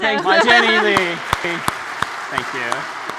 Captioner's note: applause